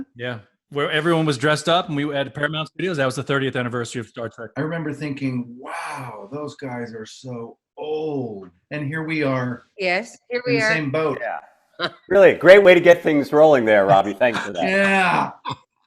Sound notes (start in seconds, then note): 13.5 Robert laughing; 13.9 Kate laughing